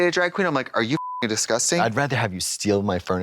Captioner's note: beep